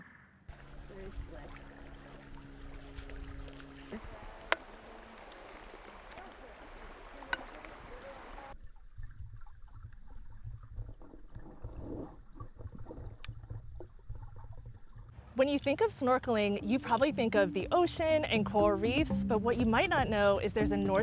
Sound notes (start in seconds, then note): 0.5 water rushing; 8.7 water gurgling